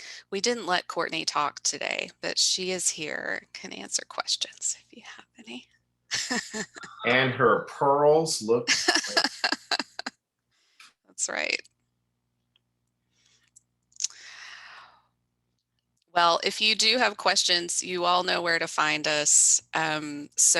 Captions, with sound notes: We didn't let Courtney talk today, but she is here and can answer questions if you have any. - And her pearls look great. (laughs) - That's right. Well, if you do have questions you all know where to find us.